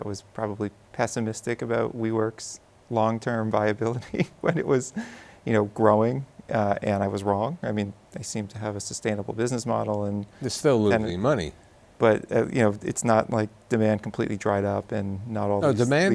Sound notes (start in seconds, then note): 3.9 chuckles